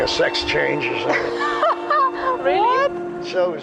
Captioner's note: laughing